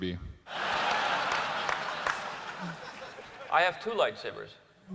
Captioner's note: laughter